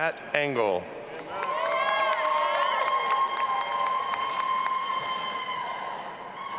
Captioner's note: audience applauding and cheering